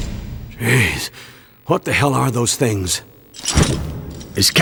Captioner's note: shocked sigh